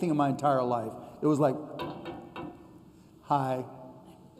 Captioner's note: knock, knock, knock